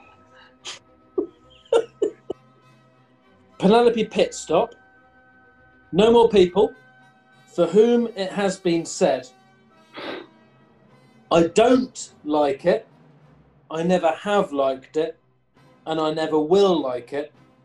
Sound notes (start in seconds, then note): 1.1 giggling; 10.0 sniggering